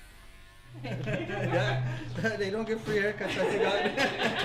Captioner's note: laughs